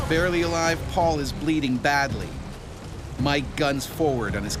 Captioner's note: voiceover